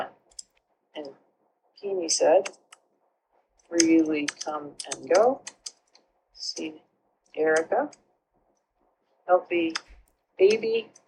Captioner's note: fades out